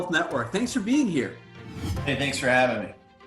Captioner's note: air whooshing